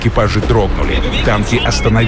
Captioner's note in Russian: Говорят по-немецки